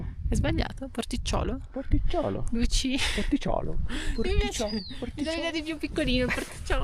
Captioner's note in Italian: risate